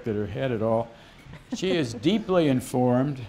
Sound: laughter

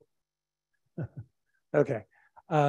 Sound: chuckles

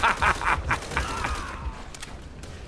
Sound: laughs

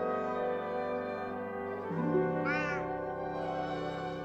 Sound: meows

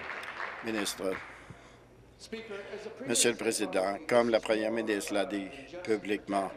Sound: applause

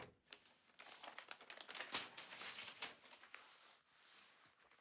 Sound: papers rustling

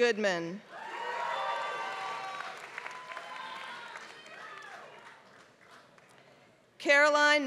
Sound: applause

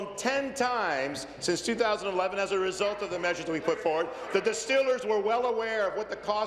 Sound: applause

